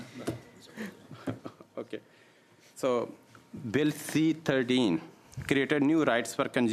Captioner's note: laughter